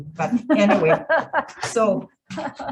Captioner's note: laughing